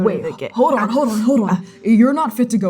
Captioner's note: gasping in pain